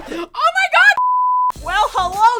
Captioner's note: beeping